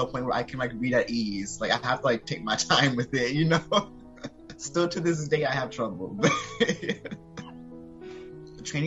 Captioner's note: laugh; laughing